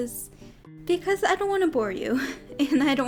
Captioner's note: chuckles